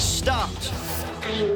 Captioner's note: robot talking